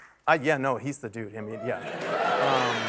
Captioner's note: applause